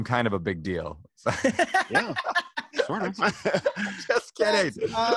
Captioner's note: laughs